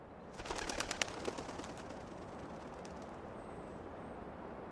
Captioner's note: bird fluttering